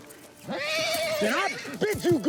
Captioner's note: horse neighing